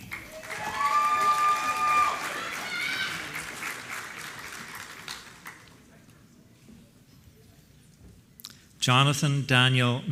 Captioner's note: applause